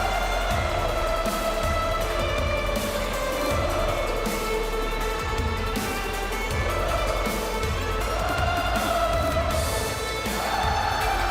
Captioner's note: crowd cheering